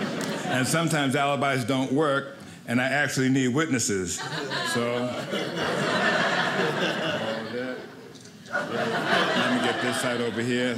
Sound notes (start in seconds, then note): 4.2 audience laughing